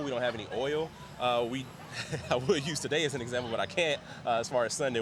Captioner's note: laughs